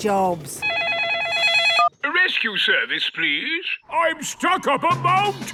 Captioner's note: phone ringing